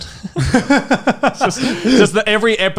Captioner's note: laughing